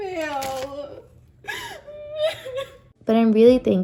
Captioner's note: cries more